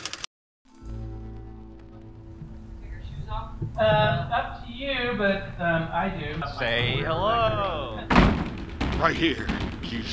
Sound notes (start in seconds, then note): 0.8 somber jazz music; 7.9 door thudding; 8.2 suspenseful music